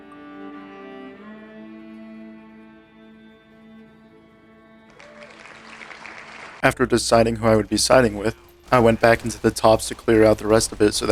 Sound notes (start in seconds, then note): 4.8 people cheering